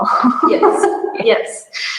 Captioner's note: laughs